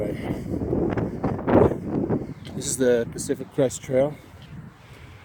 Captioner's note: wind noise dies down